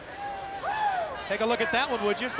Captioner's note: crowd cheering